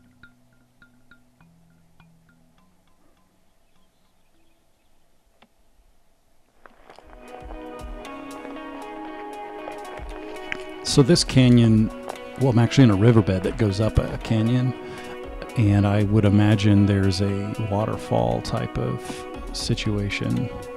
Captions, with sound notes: (bright music) (footsteps crunching) This canyon, we're actually in a riverbed that goes up a canyon, and I would imagine there's a waterfall type of situation